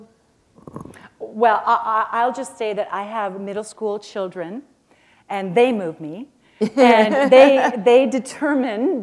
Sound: chuckle

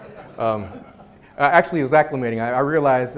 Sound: audience chuckles

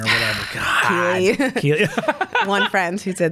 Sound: laughs

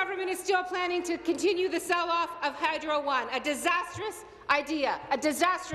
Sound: applause

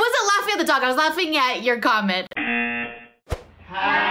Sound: buzzer rings

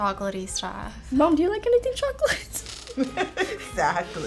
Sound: laughs

